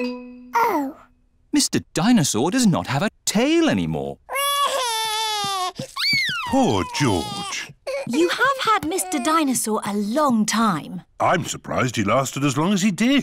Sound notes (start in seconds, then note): 4.3 crying